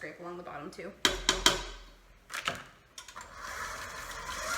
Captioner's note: spatula tapping; mixer buzzing